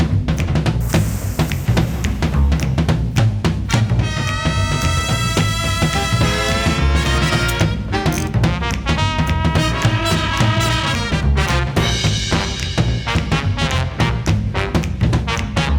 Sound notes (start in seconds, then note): 0.8 torch hisses